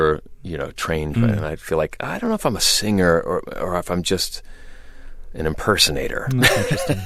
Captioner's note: laughter